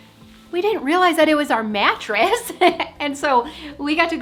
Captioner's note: chuckling